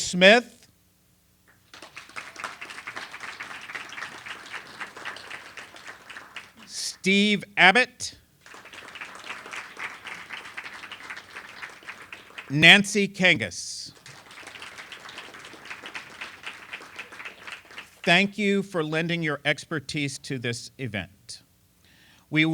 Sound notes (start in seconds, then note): 1.5 applause; 8.4 applause